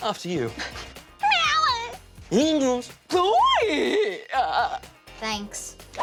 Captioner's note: make crazy sounds